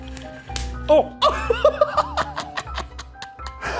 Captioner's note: laughs